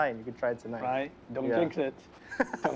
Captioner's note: laughs